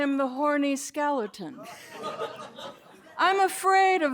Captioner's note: laughter